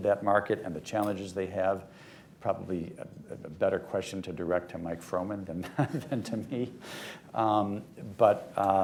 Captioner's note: laughter